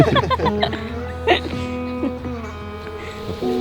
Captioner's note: laughter, soft music